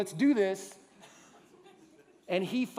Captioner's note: laughter